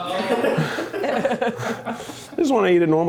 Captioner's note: crew laughs